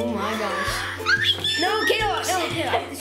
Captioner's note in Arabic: صيحات